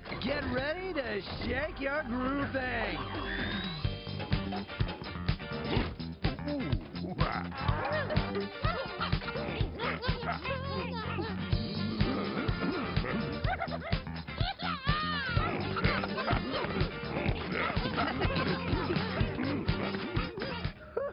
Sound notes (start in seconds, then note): 3.9 disco music; 8.5 laughing